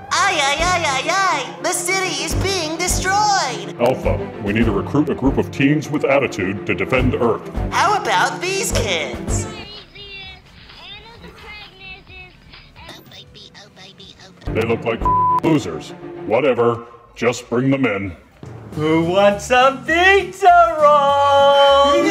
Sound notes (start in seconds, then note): 9.3 Honey Boo Boo rambling on TV; 15.0 beep; 18.0 babying voice